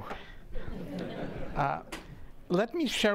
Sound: laughing

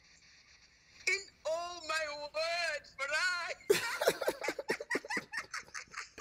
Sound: laughs

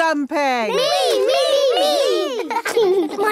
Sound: laughing

